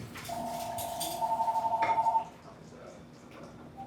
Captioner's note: phone ringing